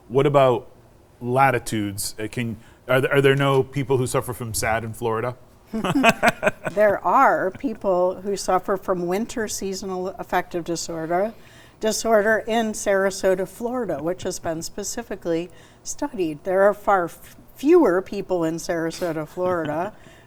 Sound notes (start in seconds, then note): 5.7 laughing